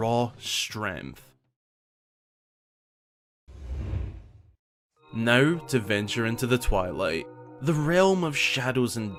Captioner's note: Zant’s Scimitar Blows In